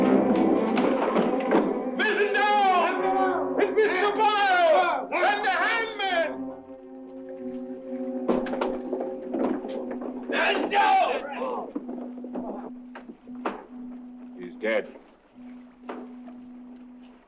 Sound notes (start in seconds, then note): 5.0 sailor yelling